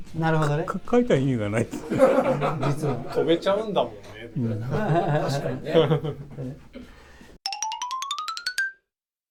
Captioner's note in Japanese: 苦笑